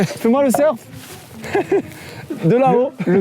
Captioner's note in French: Rire